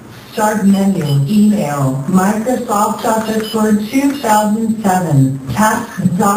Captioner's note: typing sound